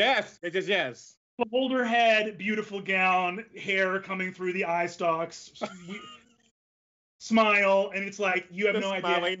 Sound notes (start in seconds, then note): 5.6 laughs